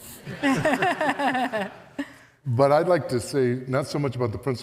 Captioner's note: all laugh